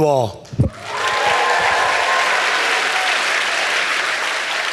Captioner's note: audience applauds